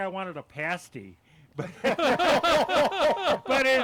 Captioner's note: men laugh